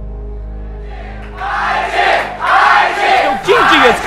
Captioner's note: crowd chanting